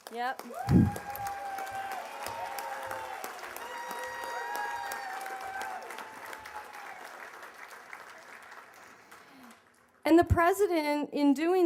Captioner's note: cheers and applause